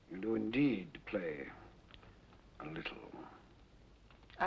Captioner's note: none